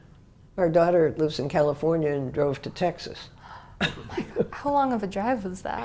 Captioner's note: laugh